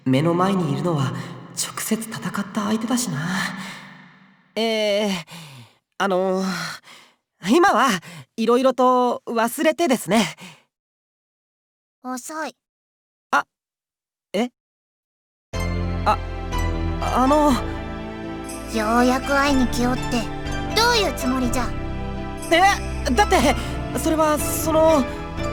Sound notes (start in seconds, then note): 11.6 silence; 15.3 disappointed silence